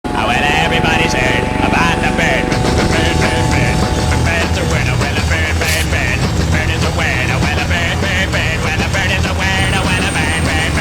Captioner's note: helicopter; rock music